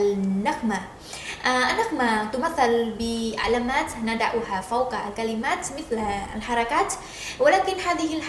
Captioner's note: in Arabic